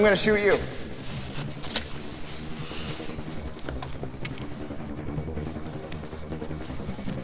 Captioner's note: suspenseful music continues; feet scuffling